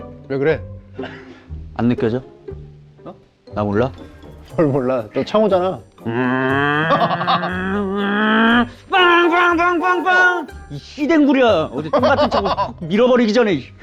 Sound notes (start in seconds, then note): 8.9 honking the horn in rage